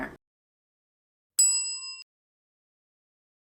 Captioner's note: bell sound